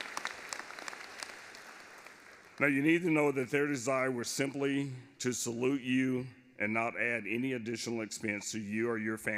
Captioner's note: applause